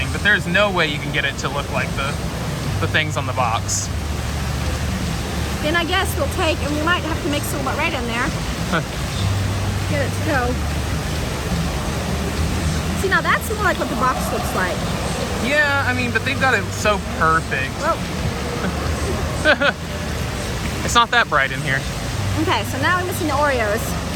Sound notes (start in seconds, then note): 18.4 laughs